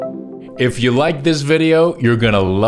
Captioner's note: laughs